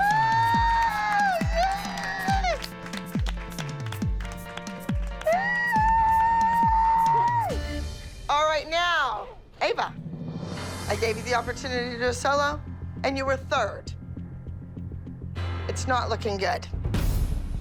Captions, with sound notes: Woo-hoo! Yay! [squealing] All right, now. Ava. I gave you the opportunity to do a solo, and you were third. It's not looking good.